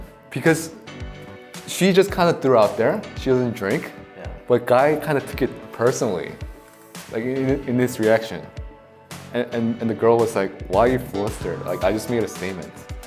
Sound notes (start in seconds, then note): none